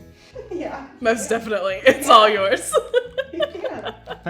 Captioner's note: laughs